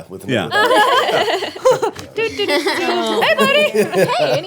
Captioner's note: laughing